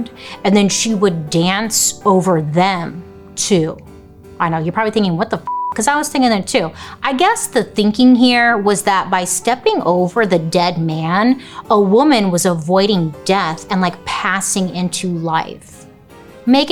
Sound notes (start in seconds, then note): 5.4 beep